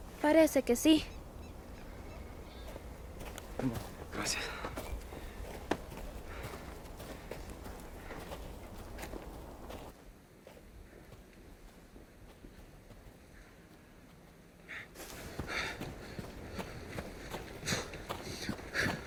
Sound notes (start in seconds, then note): 16.0 panting